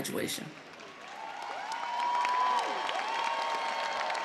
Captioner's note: cheers and applause